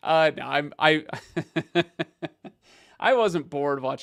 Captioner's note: laughs happily